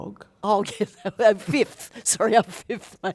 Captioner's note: laughs